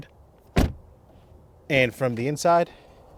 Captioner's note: car door thuds